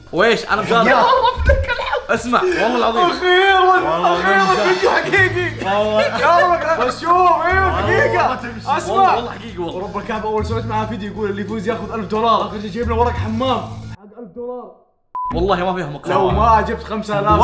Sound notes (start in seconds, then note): 5.5 laughing